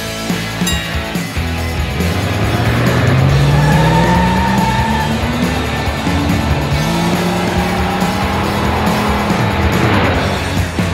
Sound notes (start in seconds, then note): 0.5 bell dinging; 3.5 tires screeching